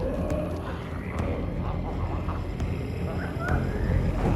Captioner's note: Smelly growling